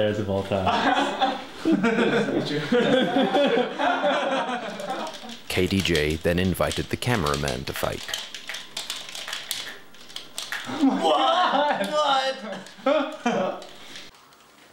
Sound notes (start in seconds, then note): 0.7 laughs